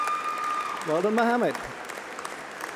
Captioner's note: applause